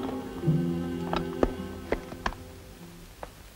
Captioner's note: clasps clicking; dramatic music